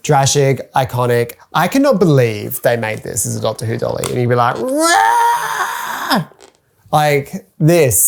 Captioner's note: Drashig Noise